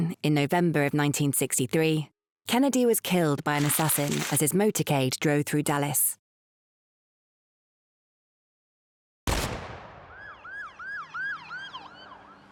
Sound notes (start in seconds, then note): 9.3 bang; 10.0 sirens